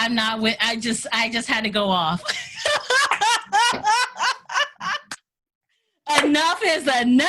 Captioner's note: laughs